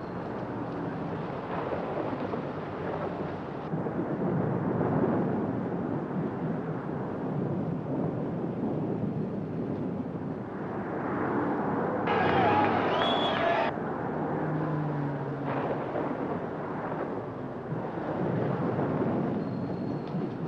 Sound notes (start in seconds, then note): 4.1 thunder rumbles; 12.0 distant sounds of baseball crowd cheering; 15.2 light rain falling; 15.4 lightning crashing